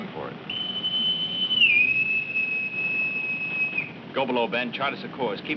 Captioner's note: whistle tooting